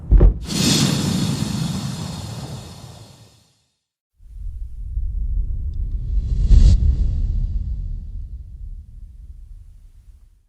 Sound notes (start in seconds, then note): 0.2 logo whooshes; 6.3 logo whooshes